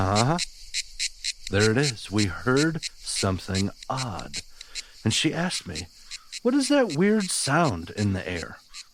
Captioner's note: cue cicada sound